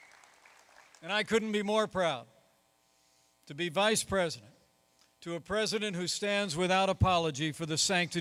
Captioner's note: applause